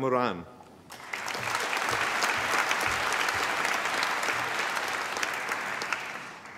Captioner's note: applause